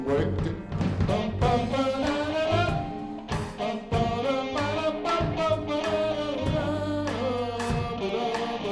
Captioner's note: humming